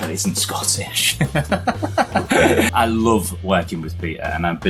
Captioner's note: laughing